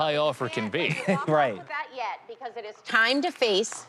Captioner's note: chuckles